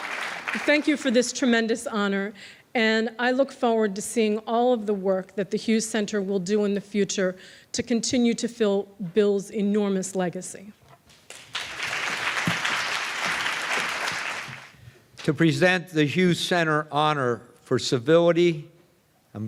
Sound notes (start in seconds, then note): 11.2 applause